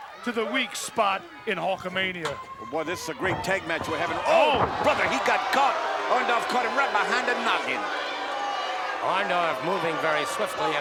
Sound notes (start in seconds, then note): 4.7 commentators exclaim